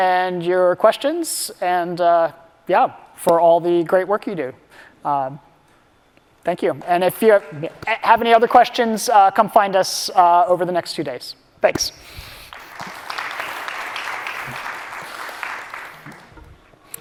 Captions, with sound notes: and your questions and yeah, for all the great work you do. Thank you. And if you have any other questions, come find us over the next few days. Thanks. [APPLAUSE]